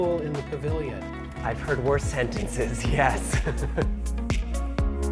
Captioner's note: laughs; upbeat music